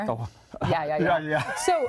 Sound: laughter

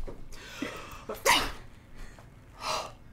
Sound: sneezes

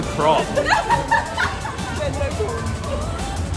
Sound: laughter

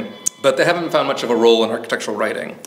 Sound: phone ringing

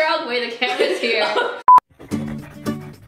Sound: laughs; playful guitar music

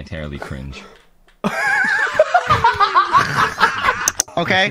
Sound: laughing

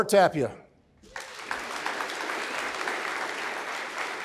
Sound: applause

